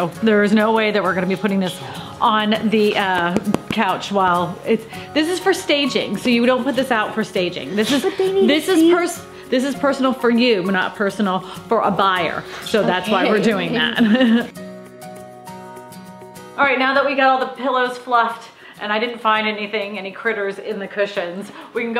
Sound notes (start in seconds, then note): 13.3 chuckles